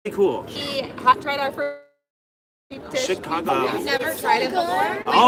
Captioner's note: static talking